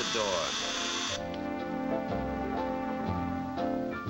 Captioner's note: doorbell ringing; gentle music playing